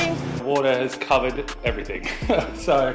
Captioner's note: chuckles